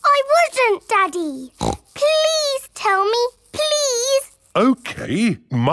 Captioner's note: snorts